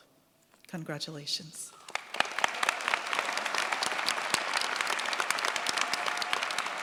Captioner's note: cheers, applause